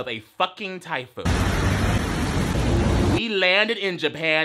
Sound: thunder rumbling

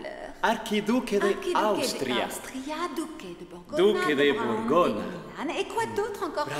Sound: Elizabeth speaks in a foreign language

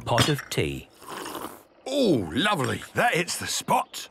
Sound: sipping

